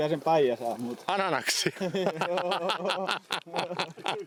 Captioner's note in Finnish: naurua